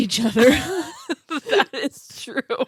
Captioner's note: laughing